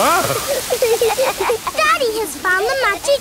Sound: laughing

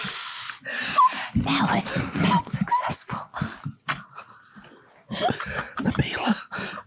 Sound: laughs

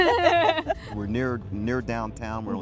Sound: laughter

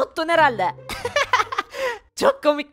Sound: laughter

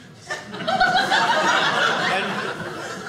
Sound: audience laughing

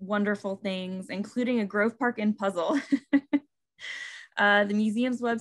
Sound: laughing

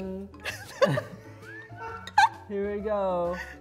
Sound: laughing

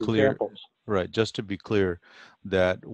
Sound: on phone

